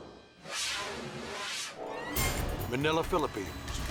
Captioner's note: fast whooshing